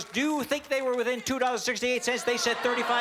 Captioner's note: audience shouting